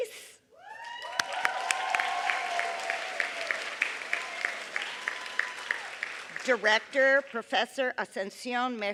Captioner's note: applause